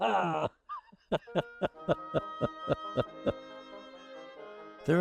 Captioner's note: chuckling